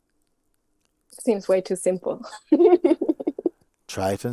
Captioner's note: laughs